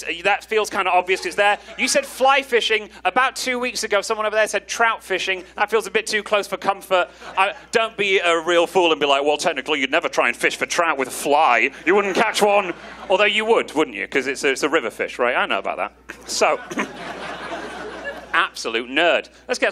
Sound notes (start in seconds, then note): 16.1 audience laughing